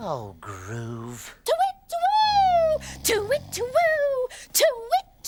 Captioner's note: Tula hooting